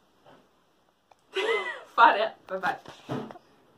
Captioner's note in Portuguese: risada